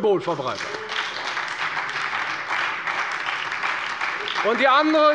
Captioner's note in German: Beifall bei der FDP und der SPD